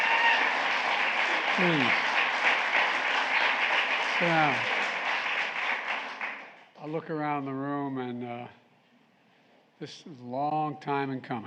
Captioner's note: applause